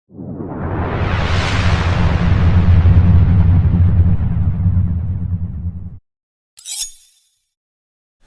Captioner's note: blade slicing sound when blade appears